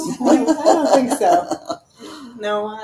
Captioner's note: laughing